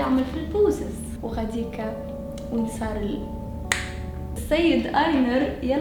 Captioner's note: snaps fingers